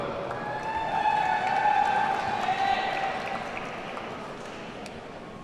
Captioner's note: audience cheers and applauds